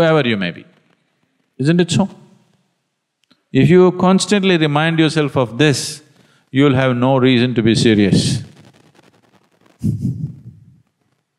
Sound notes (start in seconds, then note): 9.8 laughs softly